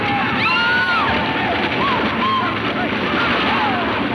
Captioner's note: woman screams